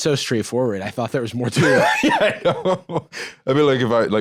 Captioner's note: laughing